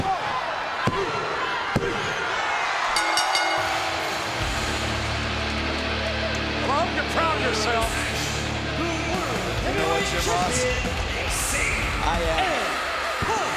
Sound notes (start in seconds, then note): 2.5 crowd cheers; 2.9 bell rings